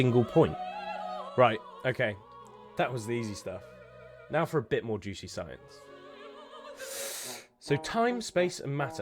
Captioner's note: deep breath